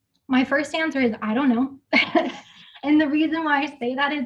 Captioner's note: chuckles